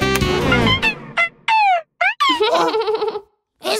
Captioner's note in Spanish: Risas